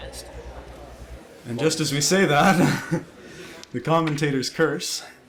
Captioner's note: laughs